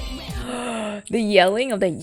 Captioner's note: gasps